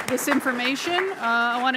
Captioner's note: applause